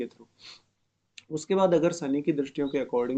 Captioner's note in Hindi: नाक से की जाने वाली आवाज़